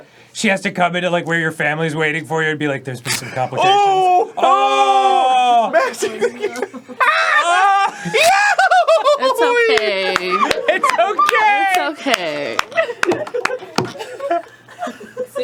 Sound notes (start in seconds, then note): 7.0 laughing through the pain; 8.0 doing a pretty solid goofy impression; 12.8 laughing so hard there's no sound